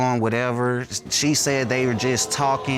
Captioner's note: audience exclaiming